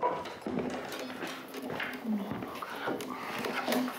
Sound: quietly

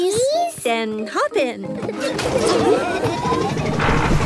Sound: laughing

